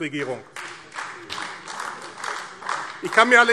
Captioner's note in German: Beifall AfD